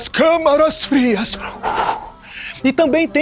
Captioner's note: puffing